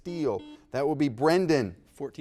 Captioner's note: buzzer dings